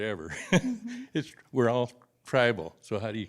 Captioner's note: laughter